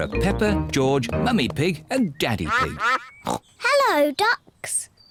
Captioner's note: ducks quack; snorts